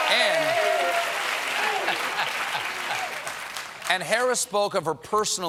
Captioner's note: cheers and applause